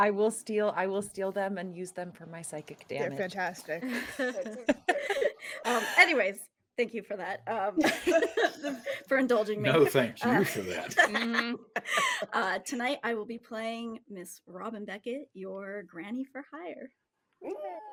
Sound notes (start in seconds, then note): 3.8 people laughing; 7.8 people laughing; 10.2 people laughing